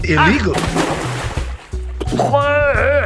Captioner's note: splash